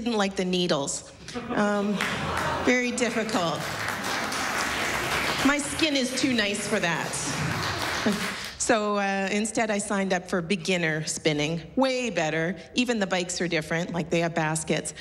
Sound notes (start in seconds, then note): 1.3 laughter, applause